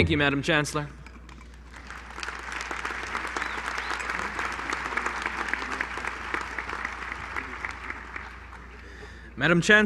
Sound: applause

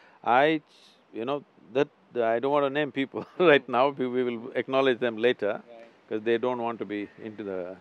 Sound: laughs

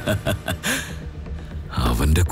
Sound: villainous laughter

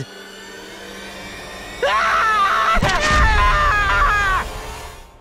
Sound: screaming

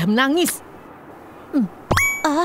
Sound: sighing

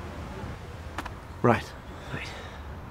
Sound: none

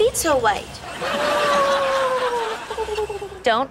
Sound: squealing

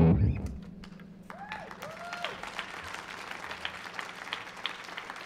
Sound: audience applauds

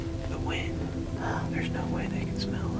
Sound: whispering

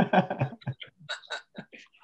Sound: laughs

